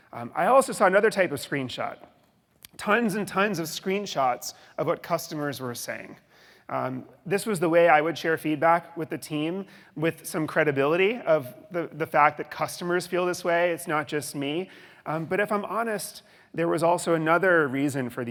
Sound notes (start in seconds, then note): none